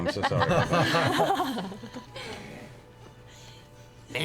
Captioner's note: laughter